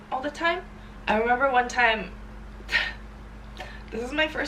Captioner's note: exhales